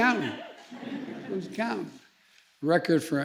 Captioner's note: laughter